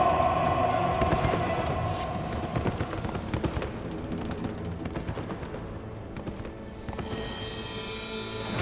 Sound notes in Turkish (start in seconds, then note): 0.0 At nalı sesleri